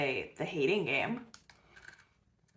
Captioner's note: bites cookie